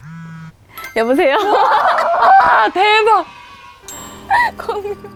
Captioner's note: phone rings first